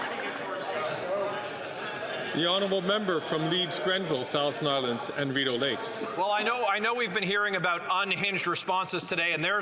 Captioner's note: some Applause